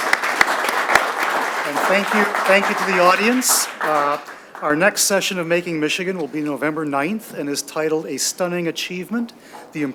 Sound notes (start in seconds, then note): 0.0 audience clapping